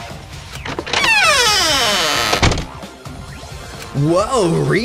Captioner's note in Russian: Скриип!